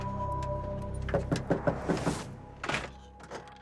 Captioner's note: knocking